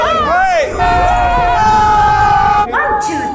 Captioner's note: group screaming